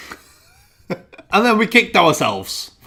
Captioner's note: laughing